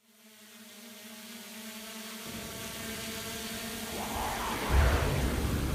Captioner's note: flies buzzing